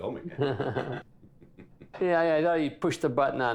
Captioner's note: both laugh